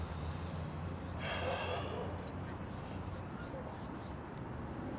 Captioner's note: Wizz sighs